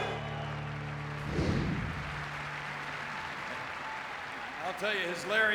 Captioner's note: audience cheering and clapping